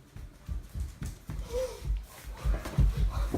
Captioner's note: gasp